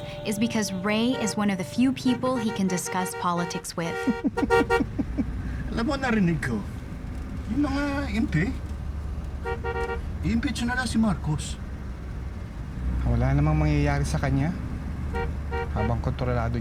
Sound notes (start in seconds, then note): 3.9 chuckling; 4.3 honking